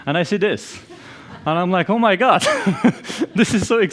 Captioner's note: laughs